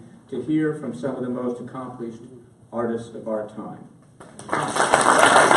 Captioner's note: applause